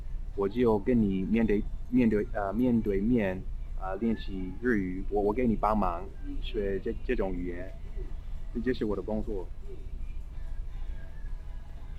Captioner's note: mandarin